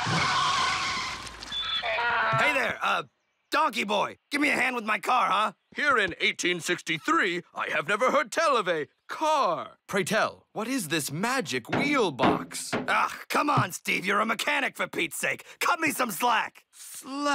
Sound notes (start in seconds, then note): 0.1 wheels spinning; 1.6 donkey brays